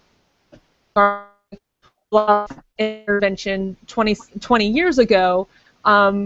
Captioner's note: feedback cuts audio